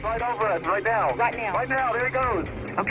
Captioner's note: on phone